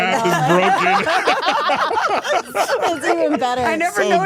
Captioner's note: all laughing